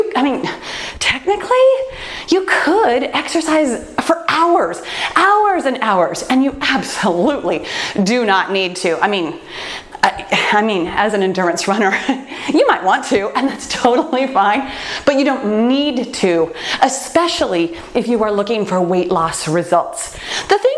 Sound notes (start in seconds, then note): 11.9 laughs